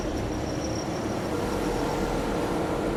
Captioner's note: elevated train noise